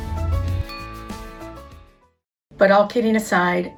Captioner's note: glass dings